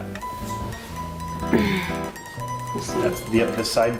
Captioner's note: grunts with effort